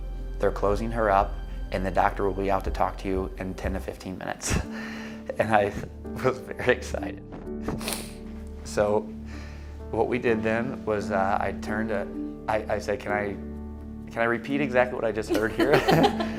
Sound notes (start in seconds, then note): 4.5 happy sigh; 15.4 laughing